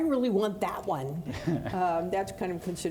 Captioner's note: laughing